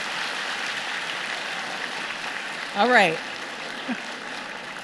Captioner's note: applause